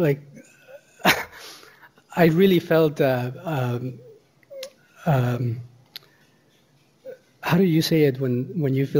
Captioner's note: chuckles wryly